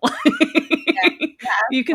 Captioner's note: laughing